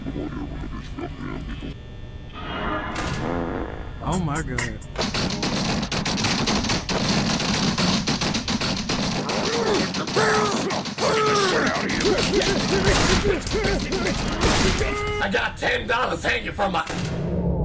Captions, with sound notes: ouh ma gawd. ouh ma gawd. *keyboard smashing* *keyboard smashing* RGRGBJHNGGDF RGRGBJHNGGDF BAEREAHJSLKJDG BAEREAHJSLKJDG HFJHGSKDFHGNHJKSFDG HFJHGSKDFHGNHJKSFDG HUHYEHNAHUHEGYUESGGHS HUHYEHNAHUHEGYUESGGHS HUHRGTYSHRYGSYHURHYSRYURSYU HUHRGTYSHRYGSYHURHYSRYURSYU I GOT I GOT I GOT TEN DOLLAS I GOT TEN DOLLAS I GOT TEN DOLLAS HANGING I GOT TEN DOLLAS HANGING I GOT TEN DOLLAS HANGING FROM I GOT TEN DOLLAS HANGING FROM I GOT TEN DOLLAS HANGING FROM MY I GOT TEN DOLLAS HANGING FROM MY